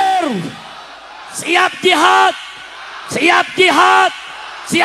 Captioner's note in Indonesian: berteriak